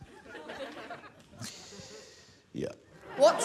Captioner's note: laughter